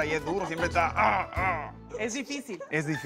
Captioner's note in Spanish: Gruñidos